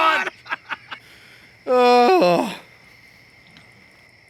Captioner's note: men laughing